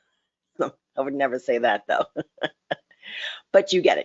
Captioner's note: laughs